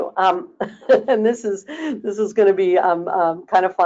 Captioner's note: laughing